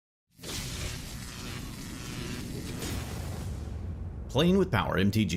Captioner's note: electrical current sizzles